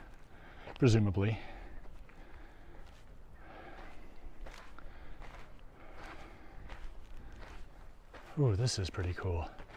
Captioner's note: background chatter